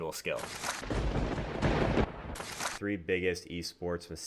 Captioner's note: thunder cracks